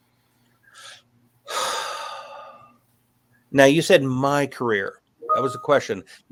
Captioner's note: sighs